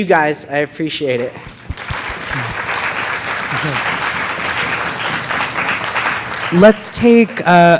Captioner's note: audience applauding